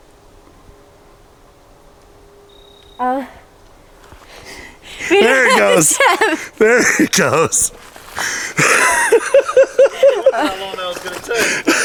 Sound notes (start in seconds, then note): 8.5 laughter